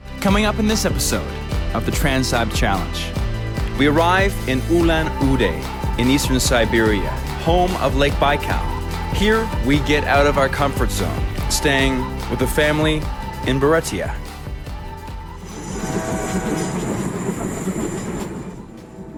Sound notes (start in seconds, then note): 15.4 train rumbling